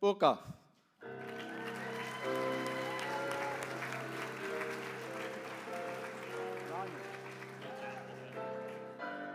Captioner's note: applause